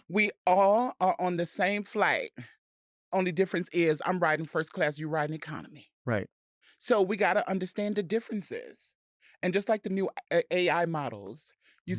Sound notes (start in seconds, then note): none